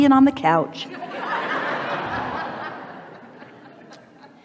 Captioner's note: the audience laughs